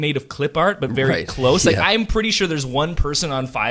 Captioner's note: laughs